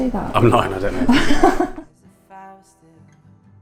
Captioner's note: laughs